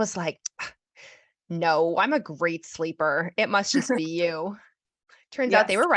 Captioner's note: laughs